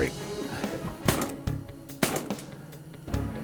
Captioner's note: gun shots